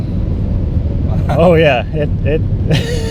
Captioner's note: laughs